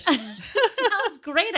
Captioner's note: laughing